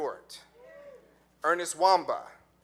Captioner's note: audience cheering